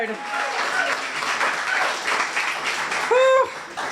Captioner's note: applause